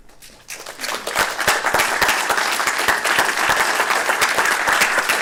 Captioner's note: applause